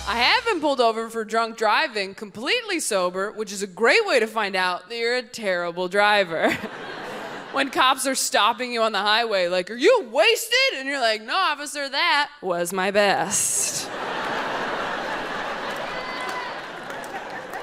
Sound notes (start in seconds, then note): 6.4 audience laughs; 13.6 audience laughs